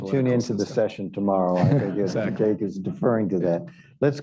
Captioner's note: laughter